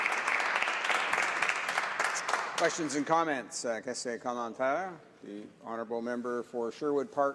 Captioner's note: applause